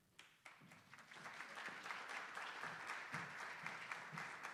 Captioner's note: attendees applauding